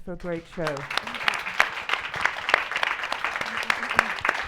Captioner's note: audience applauding